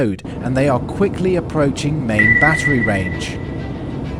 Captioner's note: radar pings